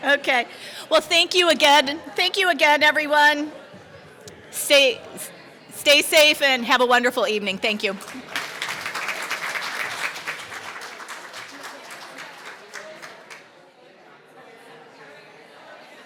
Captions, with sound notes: OK, well, thank you again. Thank you again, everyone. Stay safe, and have a wonderful evening. Thank you. [APPLAUSE]